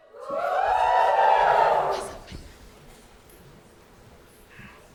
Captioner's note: audience cheering